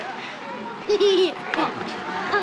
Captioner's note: giggling